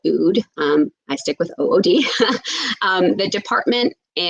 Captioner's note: laughs